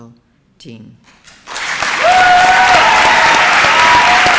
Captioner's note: applause and cheering